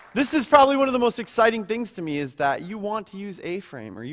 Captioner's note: applause